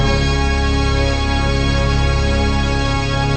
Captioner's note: none